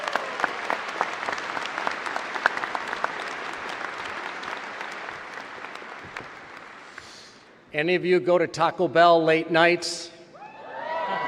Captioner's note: applause